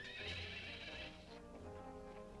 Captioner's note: horse whinnies